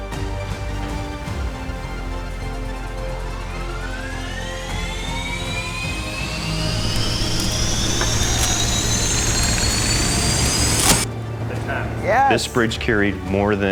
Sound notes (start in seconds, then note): 2.7 crusher whirring